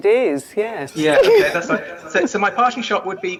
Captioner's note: laughs